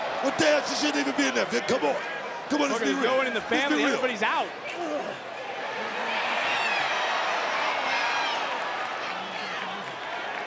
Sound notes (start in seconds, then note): 6.6 crowd cheers